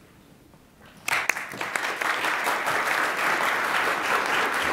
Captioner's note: attendees applaud